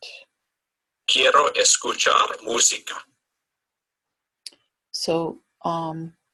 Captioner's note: man speaks in foreign language